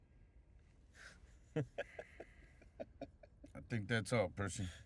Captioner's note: laughing